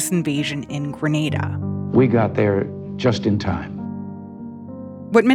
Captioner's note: soundbite of archived recording